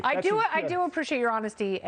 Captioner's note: laughter